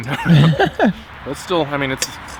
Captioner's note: both laugh